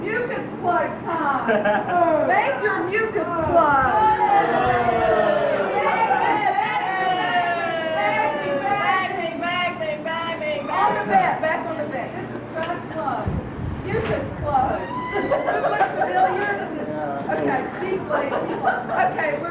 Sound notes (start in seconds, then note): 3.9 crowd shouts